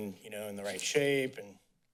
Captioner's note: none